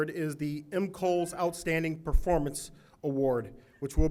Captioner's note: none